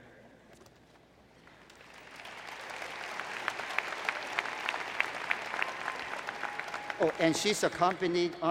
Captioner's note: applause